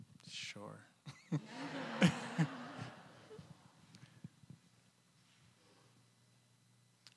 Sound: chuckling; audience laughing

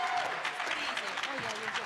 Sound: applause

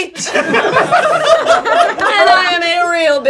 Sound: laughing

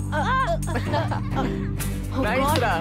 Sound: giggling

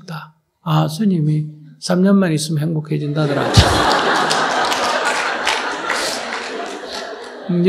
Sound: audience Laughter

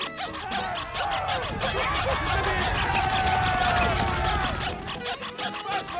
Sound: squeaking; screaming; squeaking

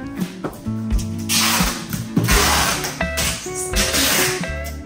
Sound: taping sound

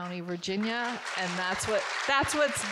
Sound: audience clapping

